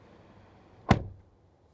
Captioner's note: door Thud